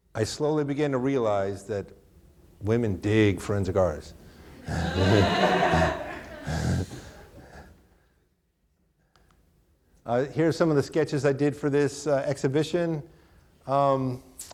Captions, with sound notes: I slowly began to realize that women dig forensic artist. (chuckles) (audience laughing) Here's some of sketches I did for this exhibition.